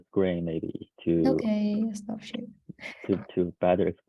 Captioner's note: giggles softly